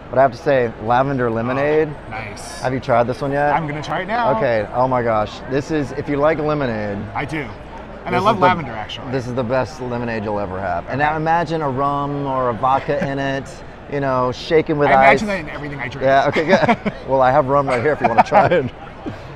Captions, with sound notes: But I have to say, Lavender Lemonade. - Nice! - Have you tried this one yet? - I'm gonna try it now. - Okay. Oh my gosh, if you like lemonade. - I do, and I love lavender actually. - This is the best lemonade you'll ever have. And now imagine a rum or a vodka in it. You know, shaken with ice. - I imagine that in everything I drink. - Yeah, okay, good. (laughing) Well I have rum right here if you wanna try it.